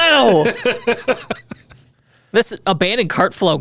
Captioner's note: laughing